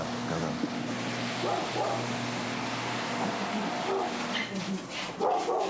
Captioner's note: dog barking